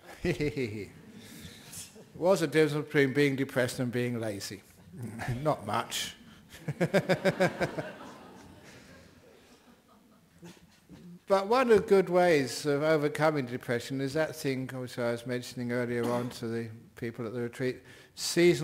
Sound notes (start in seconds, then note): 0.0 Ajahn laughs; 6.5 laughter